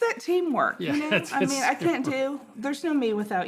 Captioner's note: both laughing